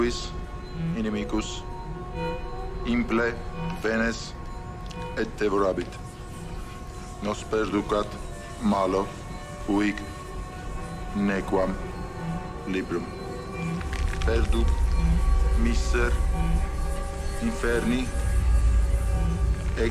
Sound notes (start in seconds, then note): 0.1 Andrei speaking in foreign language; 13.6 hand creaking; 15.6 Andrei speaking in foreign language